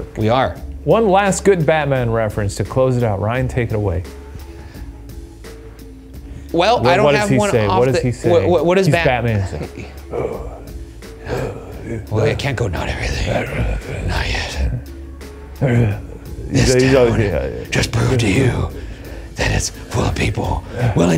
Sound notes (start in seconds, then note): 4.8 mellow mysterious music; 11.2 grunts; 15.6 grunts